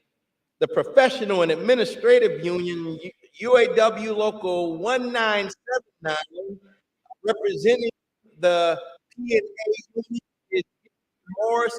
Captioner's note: audio issues